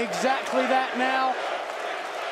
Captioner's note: crowd chattering